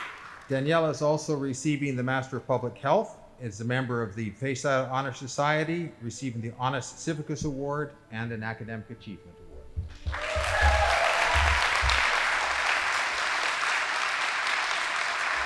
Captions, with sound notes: Daniella is also receiving the master of public health, is a member of the Phi Zeta Honor Society, receiving the Honos CIVICUS Award, and an Academic Achievement Award. (audience applauding)